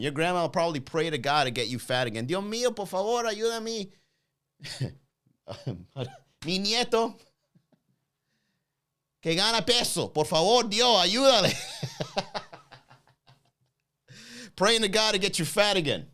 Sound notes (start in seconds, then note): 2.5 chuckles; 2.5 praying in foreign language; 11.4 laughs